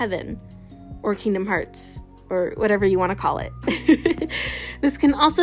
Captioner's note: laughs